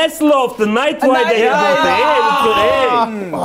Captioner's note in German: Durcheinanderrufen